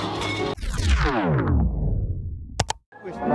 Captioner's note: singers shouting; audio warbling; graphics clicking